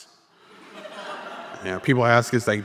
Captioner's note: audience laughing